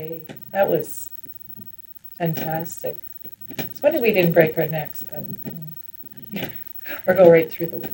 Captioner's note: laughs